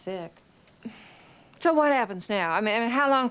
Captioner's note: sighs